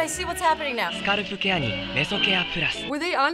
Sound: in ad: speaking Japanese

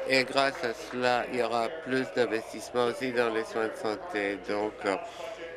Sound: applause

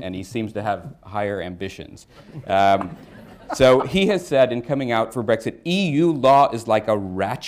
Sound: laughter

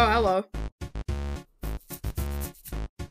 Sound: scratching head

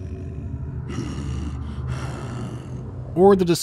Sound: low rattle; grunting

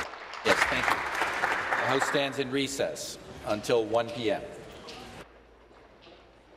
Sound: applause

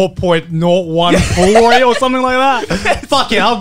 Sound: laughing

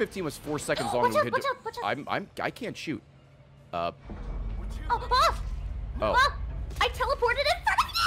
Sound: stress noises

